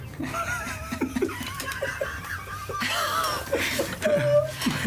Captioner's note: all laughing